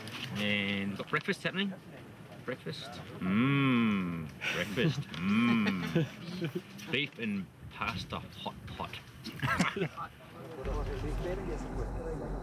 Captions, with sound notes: And got breakfast happening. Breakfast. Mm, breakfast mm. [laughs] Beef and pasta hot pot. [laughs]